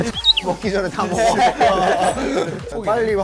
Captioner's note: haha